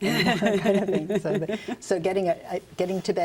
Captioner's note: laughter